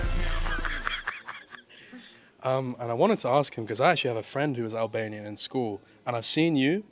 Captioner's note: laughs